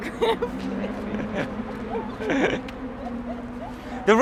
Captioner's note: both laughing